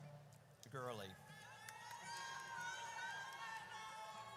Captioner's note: audience cheers